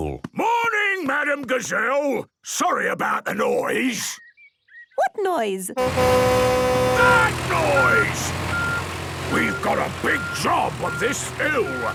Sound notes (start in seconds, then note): 5.8 tractor noise; 7.3 screaming